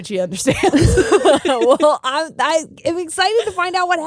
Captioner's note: both laughing